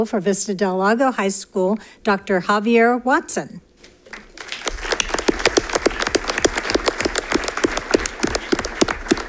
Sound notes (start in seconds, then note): 4.1 audience applauding